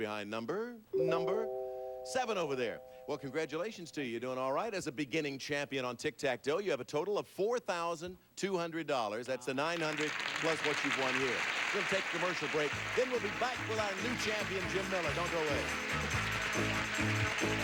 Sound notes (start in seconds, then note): 9.8 audience applauding; 17.4 audience applauding